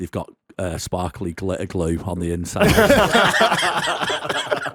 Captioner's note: laughter